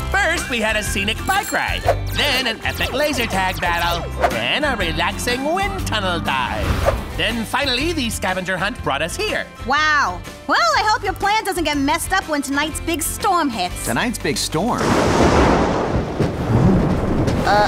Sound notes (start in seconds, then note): 14.7 thunder clap